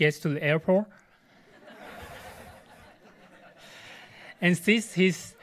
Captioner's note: audience laughs